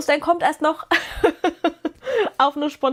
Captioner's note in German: gelächter